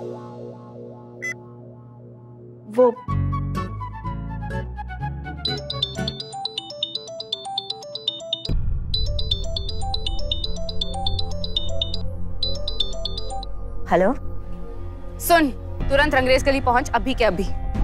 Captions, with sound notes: Actually... [mobile phone chimes] [tense music] Hello? Listen, quickly reach Rangrezz lane. Right away.